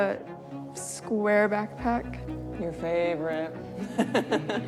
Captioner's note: laughs